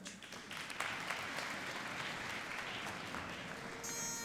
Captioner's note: applauding; bagpipes playing